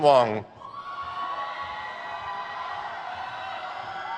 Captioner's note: crowd cheers